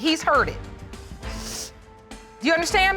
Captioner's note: sniffles